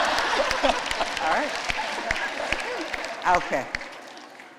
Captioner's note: laughter